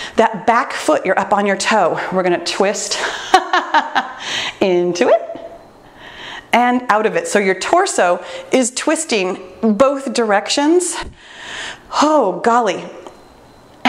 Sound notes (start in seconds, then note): 3.9 laughing